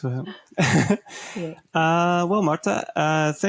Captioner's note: person laughing